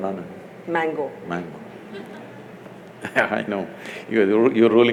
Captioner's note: laughs